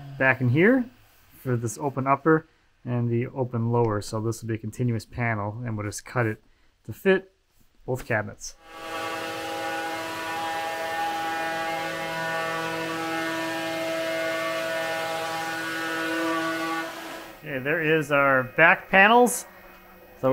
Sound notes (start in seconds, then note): 9.1 router whirs